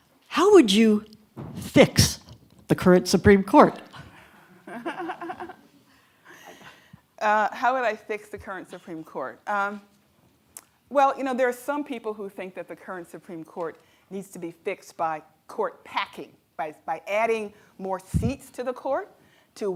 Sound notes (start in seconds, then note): 4.6 laughs; 4.8 audience laughs